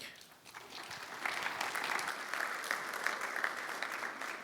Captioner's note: applause